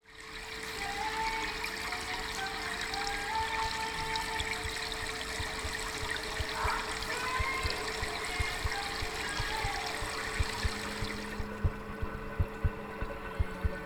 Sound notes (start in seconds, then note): 0.9 faucet water running; 10.7 mysterious music